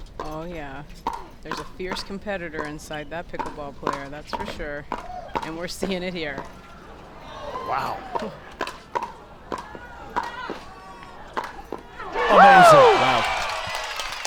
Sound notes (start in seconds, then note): 7.3 crowd groans; 12.4 crowd cheers